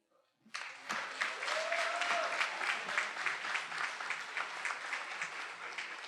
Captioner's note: attendees applauding and cheering